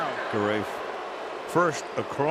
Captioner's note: booing